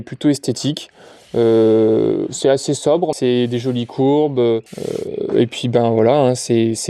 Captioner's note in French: grognement